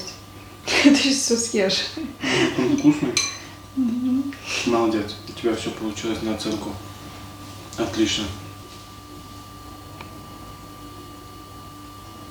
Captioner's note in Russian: смех